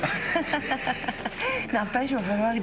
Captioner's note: Rires